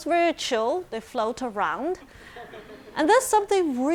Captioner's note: audience chuckling